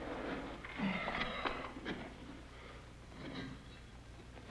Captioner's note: Gilman sighs